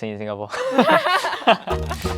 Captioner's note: laughs